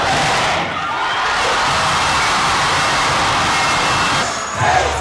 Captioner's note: everyone shouting; cheering and chanting